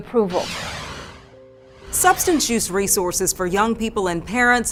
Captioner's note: air swooshing